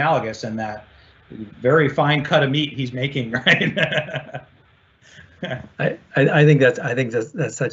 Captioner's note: laughs